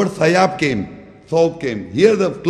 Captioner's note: Arabic